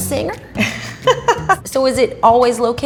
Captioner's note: laughing